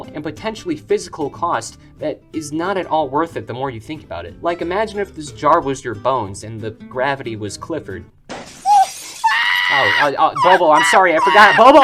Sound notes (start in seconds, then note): 8.3 glass shattering